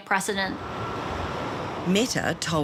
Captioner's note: traffic rumbles